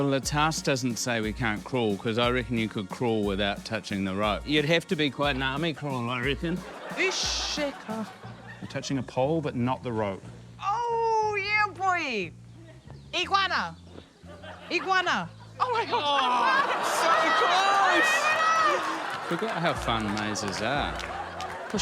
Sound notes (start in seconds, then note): 7.1 yells nonsense; 17.8 shouts